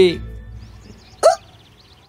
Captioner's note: exclaims